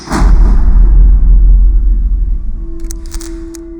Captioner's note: electrical contact buzzes